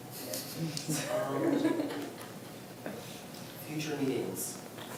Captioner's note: group chuckles softly